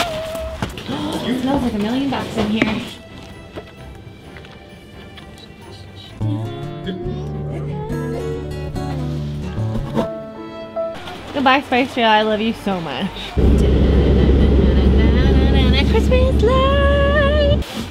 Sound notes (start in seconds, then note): 0.8 gasps; 3.6 christmas music; 10.0 sad piano